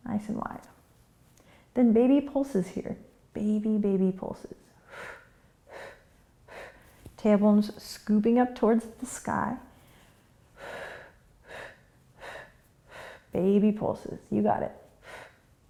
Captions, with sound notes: Nice and wide. Then baby pulses here. Baby, baby pulses. (quick breaths) Tailbone's scooping up towards the sky. (quick breaths) Baby pulses, you got it.